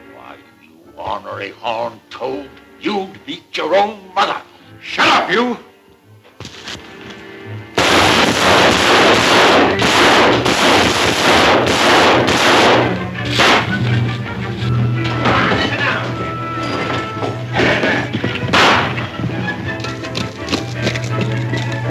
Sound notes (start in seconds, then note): 7.7 gun bangs; 13.3 dramatic music; 18.4 gun bangs